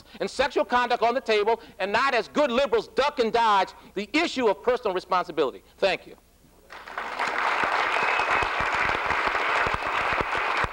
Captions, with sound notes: and sexual conduct on the table, and not, as good liberals, duck and dodge the issue of personal responsibility. Thank you. [APPLAUSE]